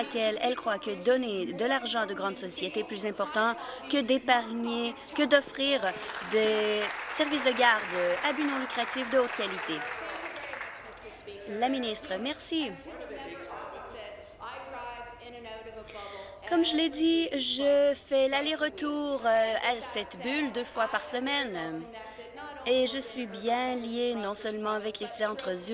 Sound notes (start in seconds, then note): 9.5 applause